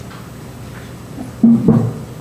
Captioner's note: microphone bumps